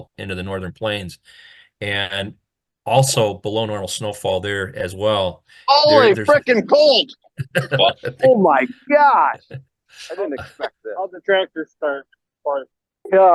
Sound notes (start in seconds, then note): 7.4 chucking